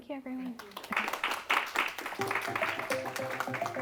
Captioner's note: applause; inspirational music